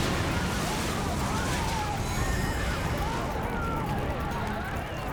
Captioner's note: crowd screaming